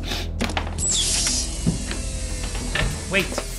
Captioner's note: door hissing